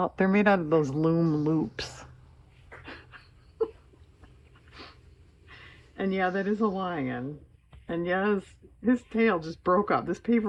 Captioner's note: laughs